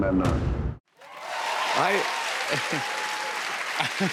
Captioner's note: cheers and applause